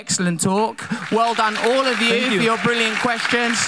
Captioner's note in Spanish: aplauso de la audiencia